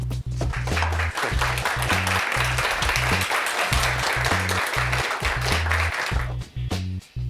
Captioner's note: applause; mellow funky music